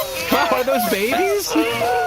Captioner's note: squeaking happily